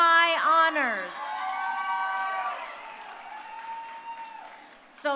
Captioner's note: crowd cheering